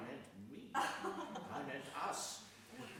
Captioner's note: laughing